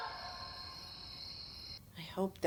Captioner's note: insects chirping